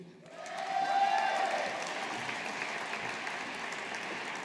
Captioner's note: audience applauding